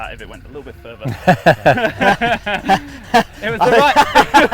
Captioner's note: laughing